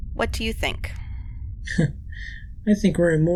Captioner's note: scoff/Laugh